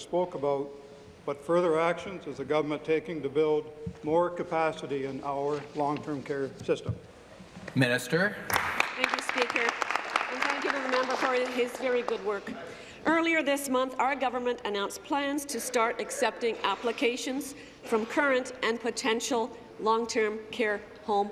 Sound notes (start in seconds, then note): 11.6 applause